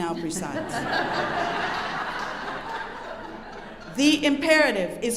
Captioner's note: audience laughing